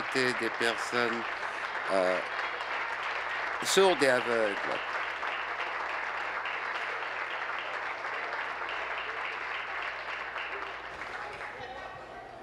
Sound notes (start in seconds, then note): 1.8 applause